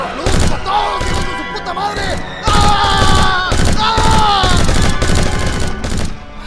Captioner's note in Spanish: Grita de Dolor